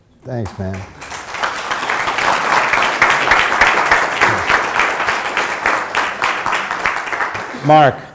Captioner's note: applause